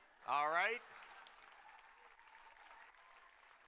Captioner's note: applause